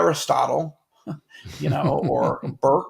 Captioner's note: chuckle